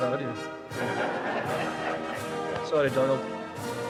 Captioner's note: audience laughing